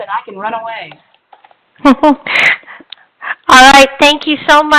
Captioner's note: laughter